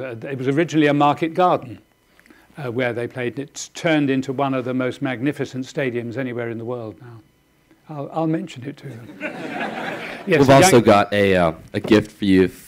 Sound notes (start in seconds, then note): 9.0 audience laughing